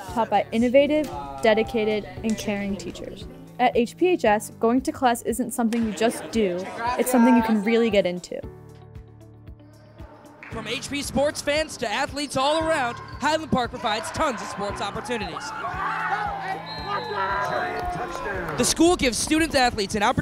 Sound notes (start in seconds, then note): 16.0 yelling